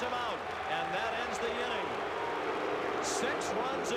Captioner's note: booing